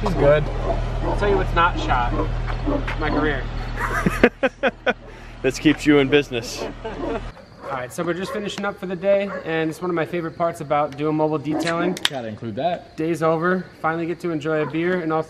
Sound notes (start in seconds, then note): 3.7 laughter